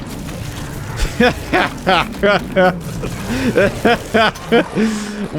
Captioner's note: laffter